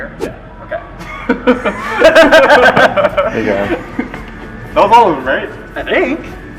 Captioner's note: laughter